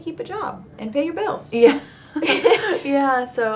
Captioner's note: both laughing